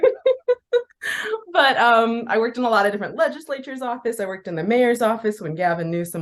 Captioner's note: laughs